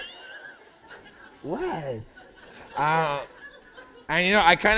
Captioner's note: laughter